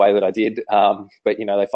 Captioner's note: laughing